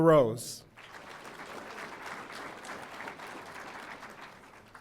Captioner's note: audience applauding